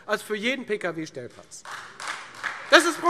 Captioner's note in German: Beifall Freie Demokraten